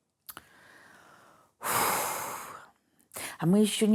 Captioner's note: exhales deeply